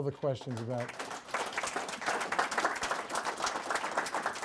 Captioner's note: audience applauds